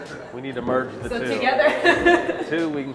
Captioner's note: laughs